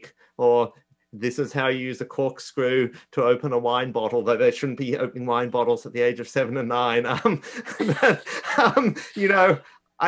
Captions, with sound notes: or this is how you use the corkscrew to open a wine bottle, that they shouldn't be opening wine bottles at the age of seven and nine (laughs).